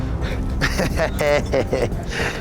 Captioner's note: giggles